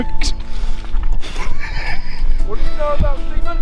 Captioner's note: laughs